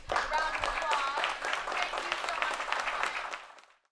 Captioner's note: applause